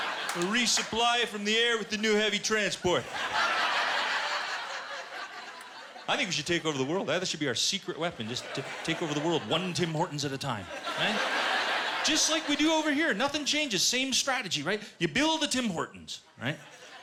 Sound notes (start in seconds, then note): 0.0 laughter; 3.0 laughter